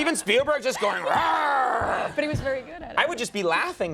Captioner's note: mimics dinosaur roaring